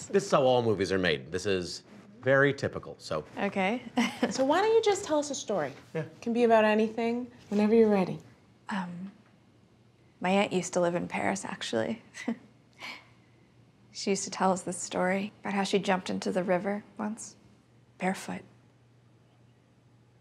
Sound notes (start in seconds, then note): 3.9 laughs; 12.2 chuckles